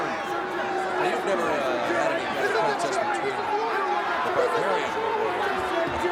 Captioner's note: audience chattering